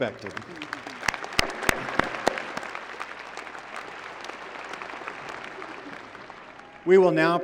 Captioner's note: applause